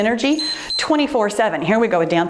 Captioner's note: timer beeps